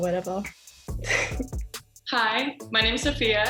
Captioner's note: laughs